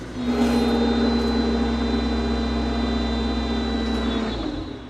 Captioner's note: machinery rumbles